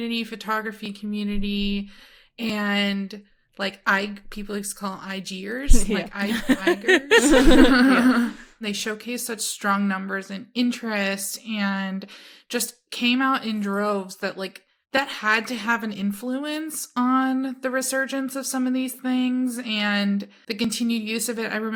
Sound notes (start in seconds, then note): 6.2 everyone laughs